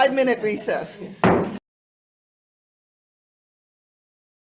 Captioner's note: gavel thudding